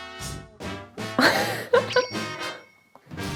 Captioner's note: bursts out laughing